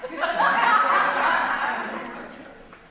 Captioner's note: audience laughs